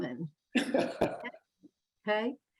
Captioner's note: laughs